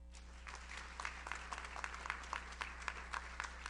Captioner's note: audience applauds